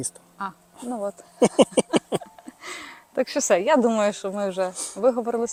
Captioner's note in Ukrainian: сміх